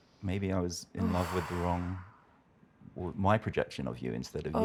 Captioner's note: sighs